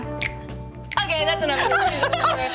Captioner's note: snaps; laughter drowns out speaker